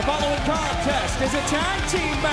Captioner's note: bell ringing